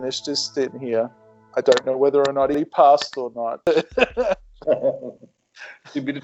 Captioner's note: laughs